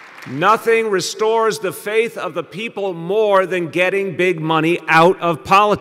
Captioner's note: applause